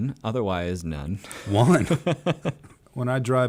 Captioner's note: laughs